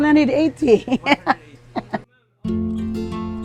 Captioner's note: laughs